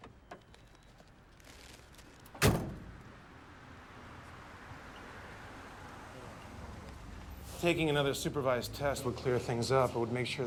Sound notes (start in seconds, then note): 3.0 vehicle approaching